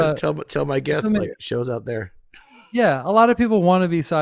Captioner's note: chuckles